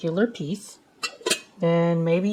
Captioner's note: clank